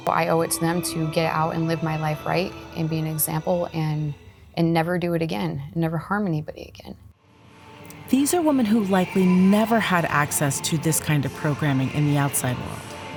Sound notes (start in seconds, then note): none